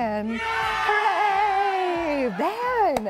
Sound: audience applause

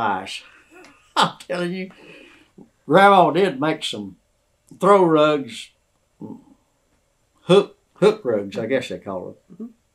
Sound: laughs

